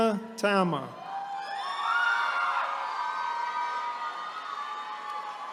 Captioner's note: attendees cheering